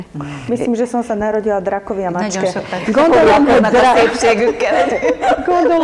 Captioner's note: laughing